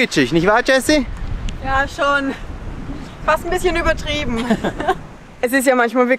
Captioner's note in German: Lachen